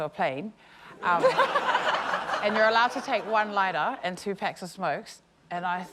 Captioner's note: laughter